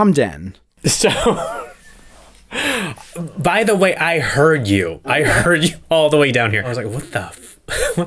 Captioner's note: laugh